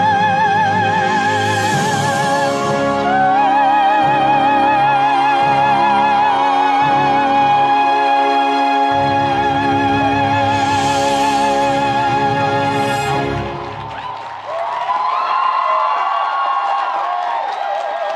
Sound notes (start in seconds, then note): 6.9 audience applauds; 6.9 audience cheers